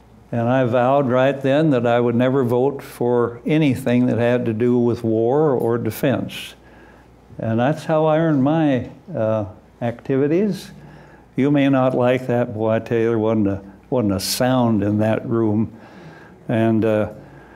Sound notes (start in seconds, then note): none